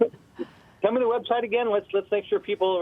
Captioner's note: voiceover